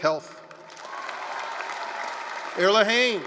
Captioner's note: applause